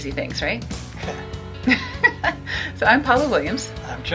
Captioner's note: both laughing